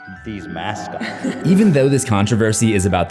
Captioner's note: woman laughing